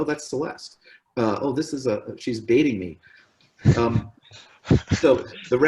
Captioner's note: laughs